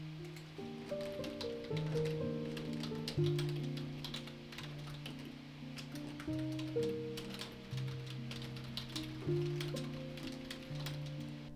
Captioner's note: keyboard clicking